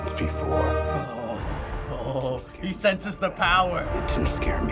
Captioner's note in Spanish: voz temblorosa